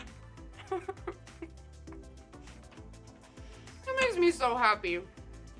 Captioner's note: laughing